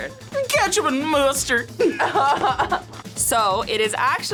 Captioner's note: both laugh